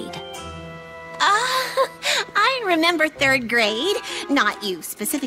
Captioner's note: chuckles nervously